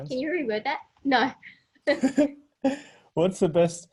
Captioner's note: laughing